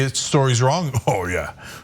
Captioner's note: laugh